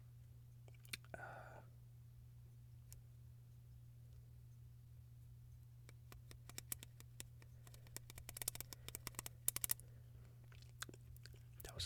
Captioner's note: stupid pen clicking